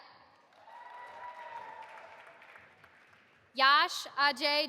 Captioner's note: audience applauding